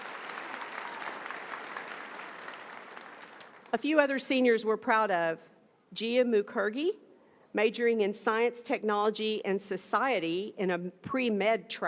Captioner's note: applause